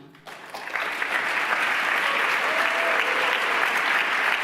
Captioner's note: applause